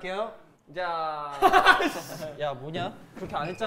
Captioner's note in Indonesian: Hahahahahaks